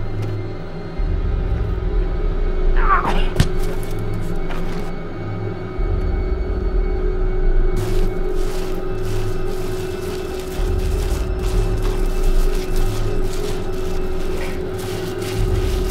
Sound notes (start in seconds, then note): 3.0 thump